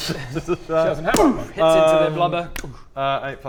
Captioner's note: boom